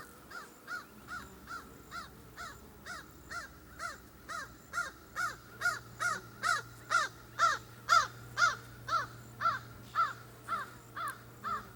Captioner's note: crow calls - caw caw caw - flying over